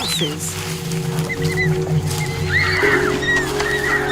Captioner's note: branches rustling; orangutans squeaking; intense music